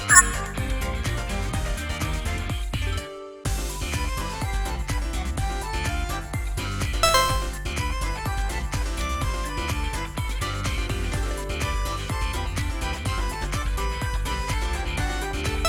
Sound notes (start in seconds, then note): 7.0 buzzer sounds!